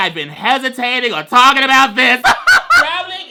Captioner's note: laughs